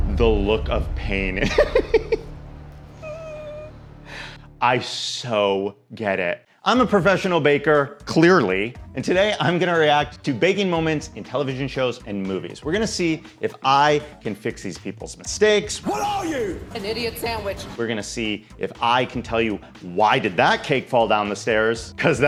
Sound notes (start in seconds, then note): 2.9 whimpering; 3.0 laughs